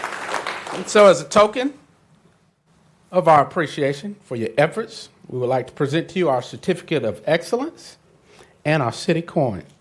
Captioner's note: applause